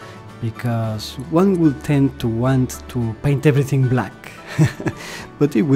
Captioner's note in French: rires